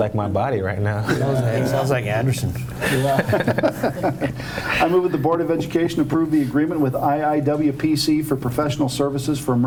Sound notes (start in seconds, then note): 2.8 everyone laughing